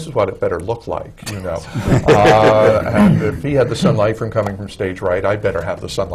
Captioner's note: laughter